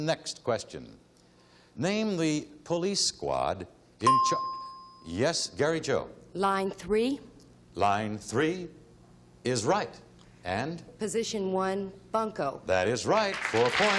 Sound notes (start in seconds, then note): 4.0 ding